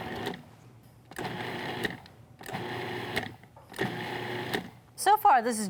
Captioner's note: food processor whirs